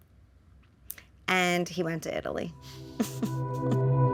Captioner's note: ominous music; laughs